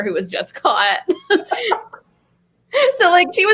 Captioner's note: laughs